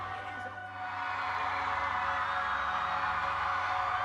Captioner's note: audience cheering